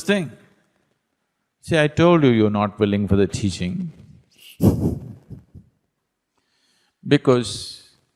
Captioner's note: laughs